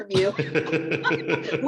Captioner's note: laughter